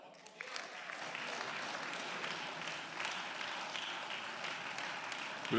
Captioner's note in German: Beifall